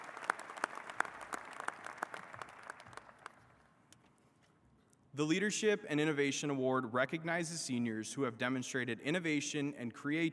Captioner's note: applause